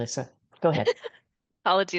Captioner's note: chuckles